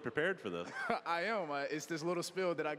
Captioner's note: laughing